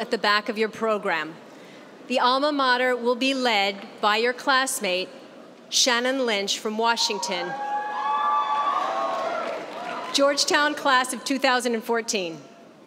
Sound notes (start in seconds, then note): 7.4 cheers and applause